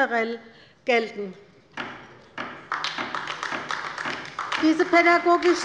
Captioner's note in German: Beifall bei der LINKEN